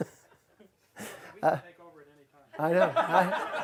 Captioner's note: voiceover